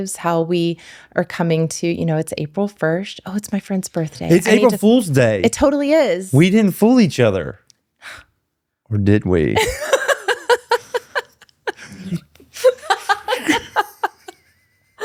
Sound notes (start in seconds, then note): 12.3 laughing